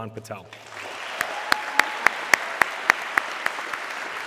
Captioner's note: audience clapping